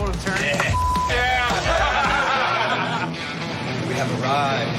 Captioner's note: laughter